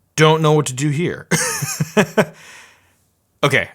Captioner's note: laughing